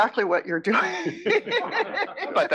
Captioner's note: laugh